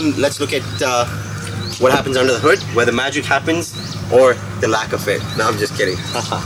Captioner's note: haha